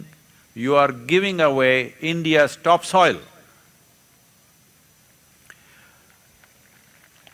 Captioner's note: applause